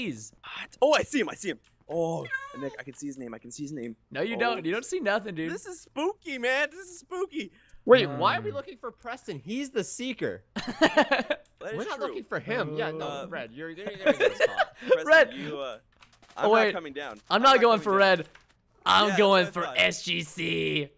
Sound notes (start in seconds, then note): 10.7 boys clamoring; 13.8 laughter